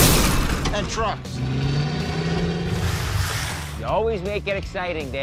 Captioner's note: engine revving